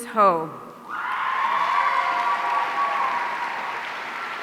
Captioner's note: audience cheering